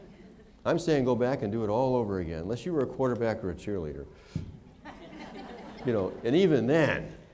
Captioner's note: laughter